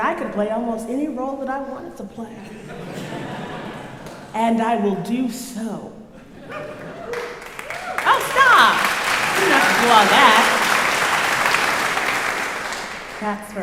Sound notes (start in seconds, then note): 8.1 crowd cheering; 11.0 crowd clapping